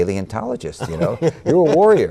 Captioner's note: laughter